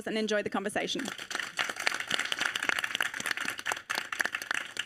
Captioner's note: audience applauding